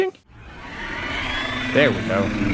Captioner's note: dragon screeching